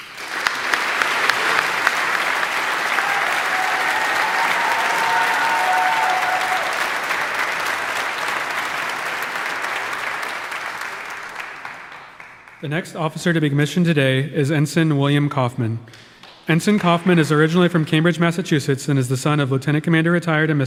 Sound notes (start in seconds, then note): 0.1 audience applauding; 3.2 audience cheering